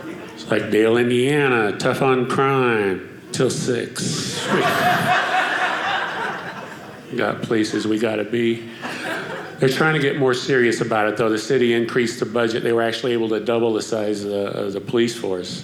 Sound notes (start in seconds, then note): 4.1 audience laughing